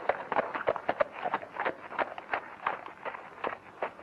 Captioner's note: hooves clomping